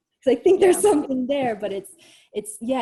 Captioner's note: chuckles